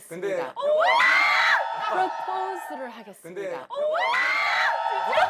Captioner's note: scream